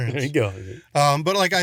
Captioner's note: laughs